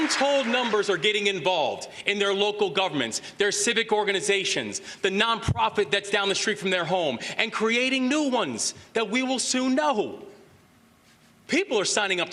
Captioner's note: applause